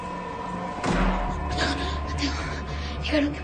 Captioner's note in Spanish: Estrépito